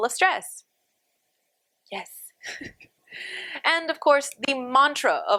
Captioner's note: laughter